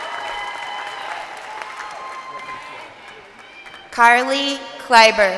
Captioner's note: crowd cheering